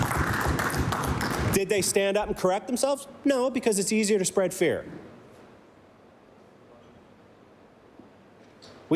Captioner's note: applause